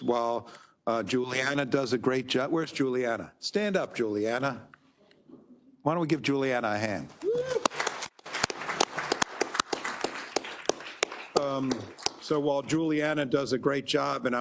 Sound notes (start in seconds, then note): 7.3 attendees applauding